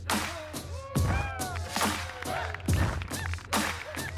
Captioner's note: people cheering, clapping